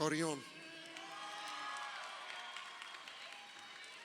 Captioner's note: crowd cheering